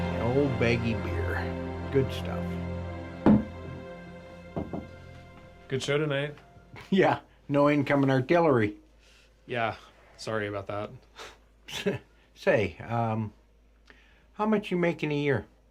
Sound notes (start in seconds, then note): 4.5 bottle thuds